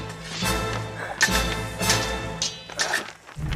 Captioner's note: swords scrape; swords clash